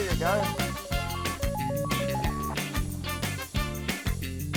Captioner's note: phone rings